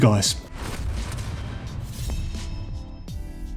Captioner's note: swooshing